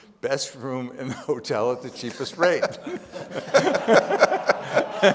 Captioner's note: laughs; audience laughing